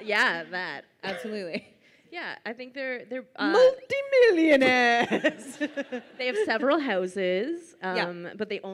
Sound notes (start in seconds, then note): 0.0 laughs; 4.8 laughs